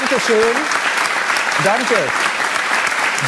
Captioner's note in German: Applaus